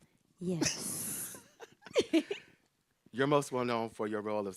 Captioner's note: laughs